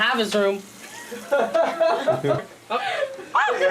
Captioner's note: laughing